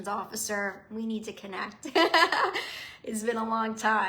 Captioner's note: laughs